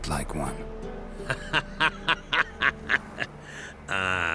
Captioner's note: laughs